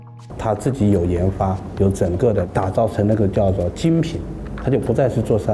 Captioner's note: speaking in Chinese